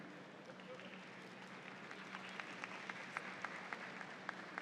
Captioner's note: audience applauds